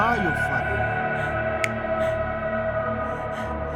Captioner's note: snaps